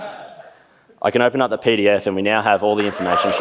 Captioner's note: laughs; laughs